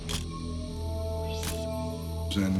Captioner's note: camera shutter click